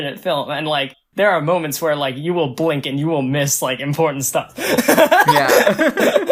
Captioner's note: laughs